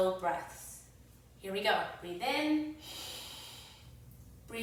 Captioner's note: exhales deeply; inhales deeply